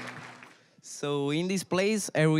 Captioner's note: applause; with Italian accent